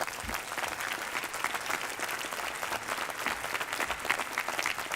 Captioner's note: applause